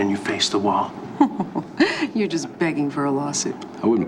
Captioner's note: chuckles